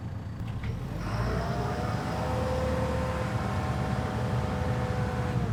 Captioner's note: truck whirring intensifies